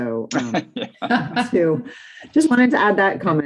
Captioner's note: participants laugh